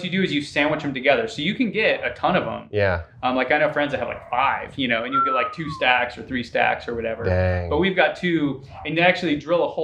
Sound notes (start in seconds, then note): 5.0 whistling